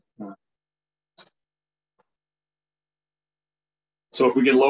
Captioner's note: audio drops out